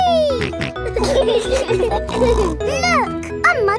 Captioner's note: laughing